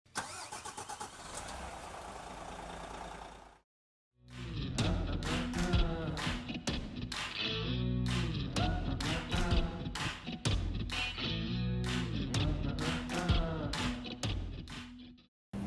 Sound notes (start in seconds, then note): 0.0 engine starting; 4.6 country rock music